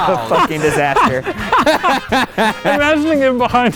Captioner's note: all laughing